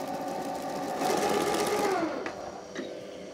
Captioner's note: loud mixing noises